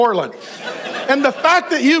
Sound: congregation laughs

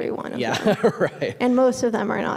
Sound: laughing

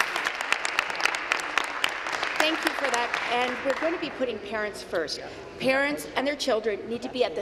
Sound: applause

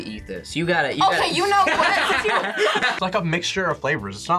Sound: laughs

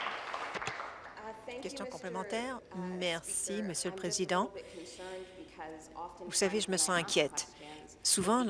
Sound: applause

